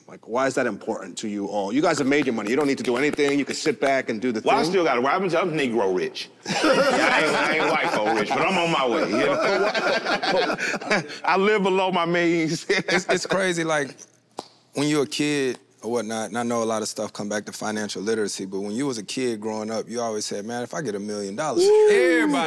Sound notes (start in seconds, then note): 10.2 all laugh